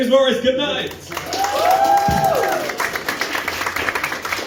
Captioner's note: applause